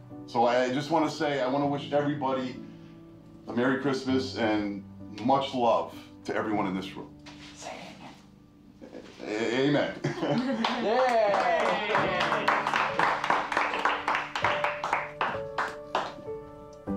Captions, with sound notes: So I just wanna say, I wanna wish everybody a Merry Christmas and much love to everyone in this room. - Say amen. - Amen. - Yay. (people applauding) (gentle music)